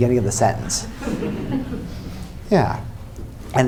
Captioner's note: laughter